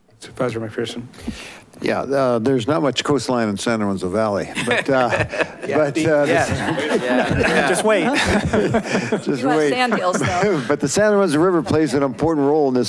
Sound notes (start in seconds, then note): 4.5 group laughing